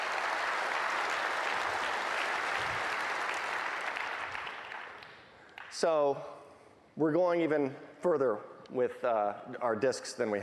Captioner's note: applause